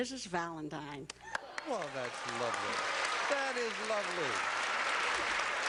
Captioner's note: applause